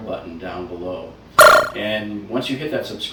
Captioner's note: electric buzz